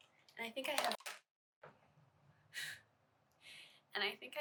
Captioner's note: item drops